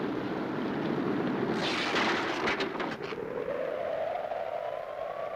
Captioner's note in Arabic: هبوب الريح